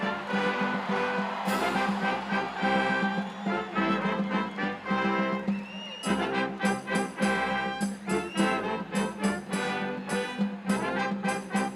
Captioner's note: applause